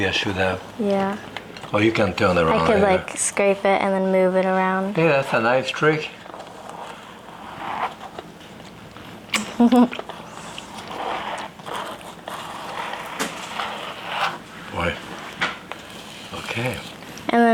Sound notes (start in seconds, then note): 9.3 Jacques smacking; 9.4 chuckling; 12.5 icing scraping